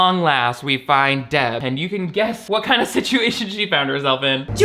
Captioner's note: laughs